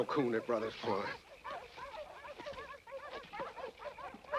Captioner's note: dogs barking